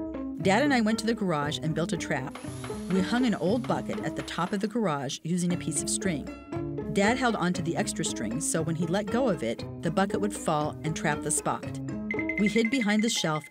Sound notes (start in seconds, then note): 2.5 drill whirring; 12.0 xylophone trilling